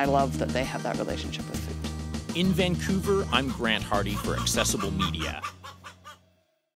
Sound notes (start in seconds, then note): 3.2 hen clucking